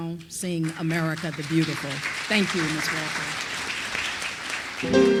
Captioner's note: applause